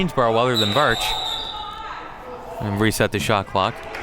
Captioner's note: whistle blows